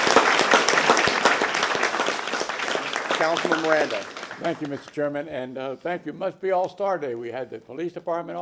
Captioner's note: applause